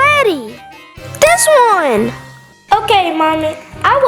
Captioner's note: magical ting